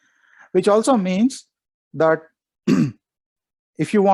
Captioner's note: clears throat